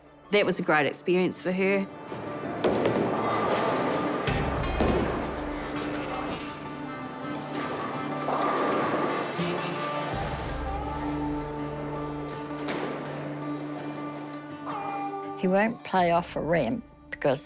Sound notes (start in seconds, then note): 2.5 pins clatter; 7.3 pins clatter; 10.4 country music